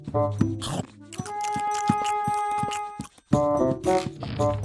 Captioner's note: chewing Sound; chomp